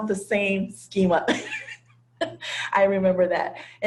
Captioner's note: laugh